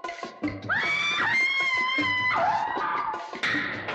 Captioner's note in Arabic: يصرخ